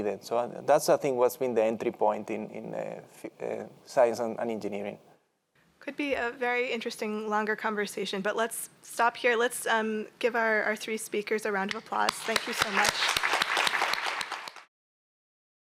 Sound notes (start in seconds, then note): 12.0 applause